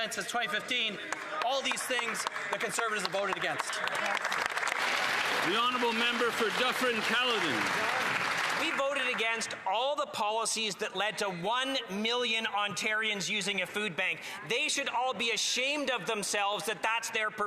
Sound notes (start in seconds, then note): 8.4 some Applause